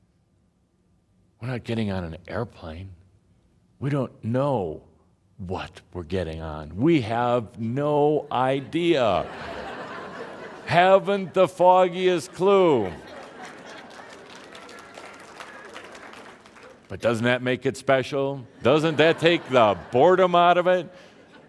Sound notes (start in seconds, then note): 8.6 laughter; 13.7 laughter and some applause